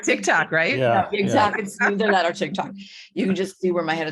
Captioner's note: laughing